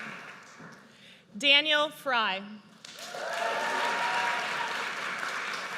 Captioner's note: audience cheers